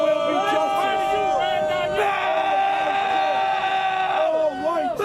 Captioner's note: chanting; screaming